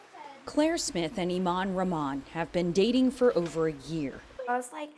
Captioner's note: voice-over